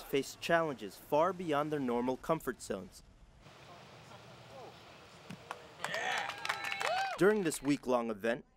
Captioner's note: clapping